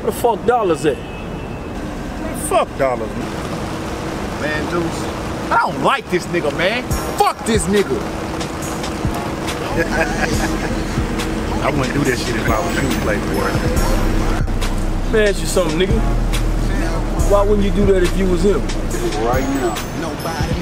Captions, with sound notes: Where the fucks Dollars at? - Man, fuck Dollars! - Man, Deuce, I don't like this nigger, man! Fuck this nigger! (man laughing) (hip hop music) - I wouldn't do that shit if I was you, playboy. - Lemme ask you something, nigger. Why wouldn't you do that if you was him? - Right now.